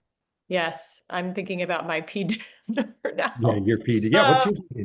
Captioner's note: laughs